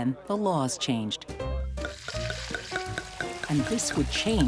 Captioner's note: liquid pouring